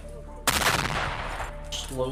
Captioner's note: explosion